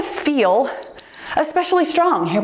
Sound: timer beeps

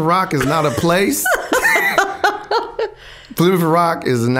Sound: both laughing

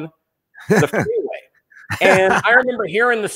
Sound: laughing

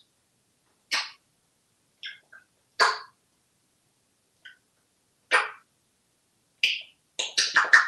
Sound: kissing sounds

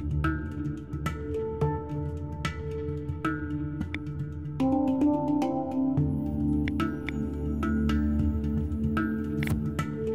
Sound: geiger-counter-like clicking sounds

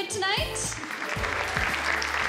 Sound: audience applause

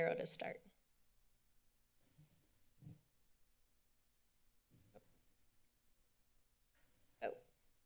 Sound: silence

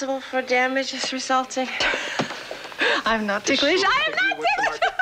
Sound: laughs

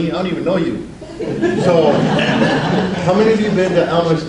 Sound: audience laughs

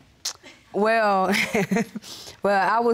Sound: chuckles

